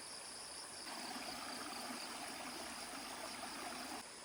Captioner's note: the sounds of nature are relaxing